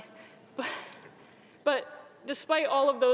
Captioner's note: giggling